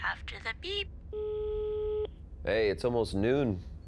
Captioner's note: line beeps